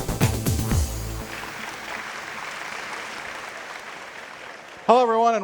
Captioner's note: people applauding